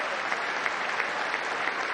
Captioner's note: crowd cheering and booing